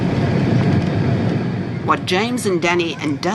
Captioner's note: plane engines roaring